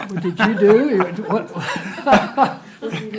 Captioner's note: laughter